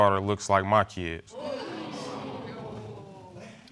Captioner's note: audience exclaiming